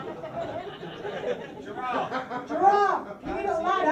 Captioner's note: someone yells "giraffe"